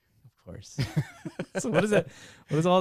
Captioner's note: laughing